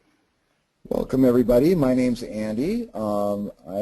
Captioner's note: voiceover